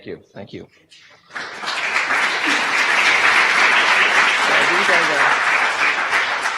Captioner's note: audience applause